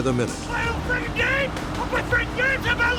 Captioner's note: shouting